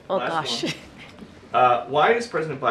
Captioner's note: laughs